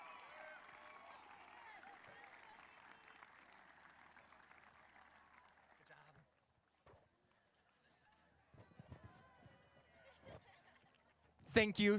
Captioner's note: cheers and applause